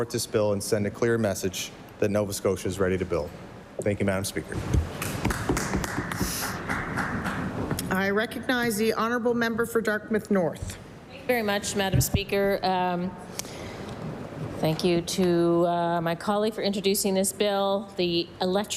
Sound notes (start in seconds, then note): 8.5 applause